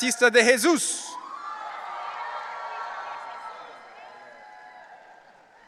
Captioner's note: audience cheering